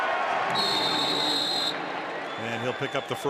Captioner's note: whistle